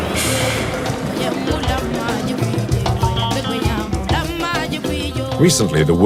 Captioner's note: foreign language